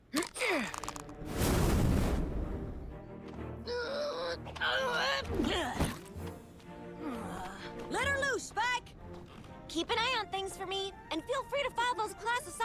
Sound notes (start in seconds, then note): 0.2 grunts; 4.6 grunts